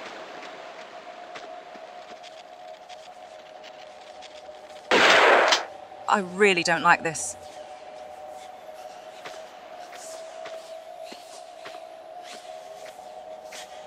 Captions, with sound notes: *BAM* I really don't like this...